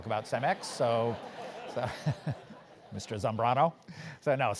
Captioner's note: laugh